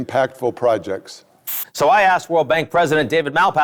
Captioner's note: static hissing